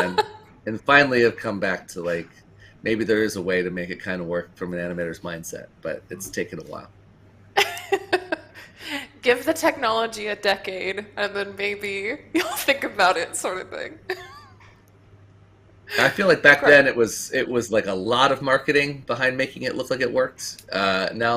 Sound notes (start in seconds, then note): 7.6 laughs